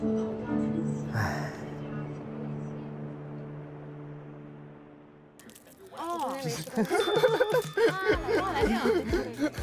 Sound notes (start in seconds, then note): 1.1 sigh